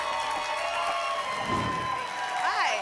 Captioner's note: applause and cheering cont; whoosh